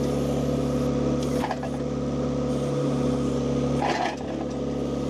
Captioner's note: machine rumbling continues